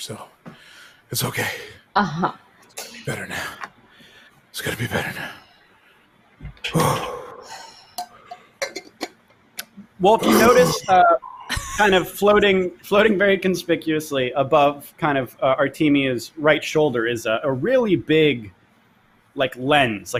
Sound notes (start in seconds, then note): 6.8 exhales loudly; 8.2 lid clangs; 10.0 exhales loudly